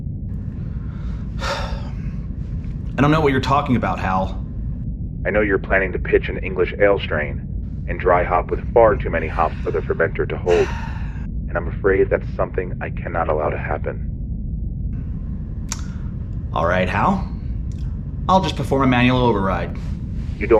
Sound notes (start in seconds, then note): 0.9 sighing